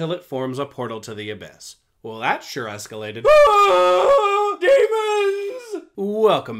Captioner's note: screams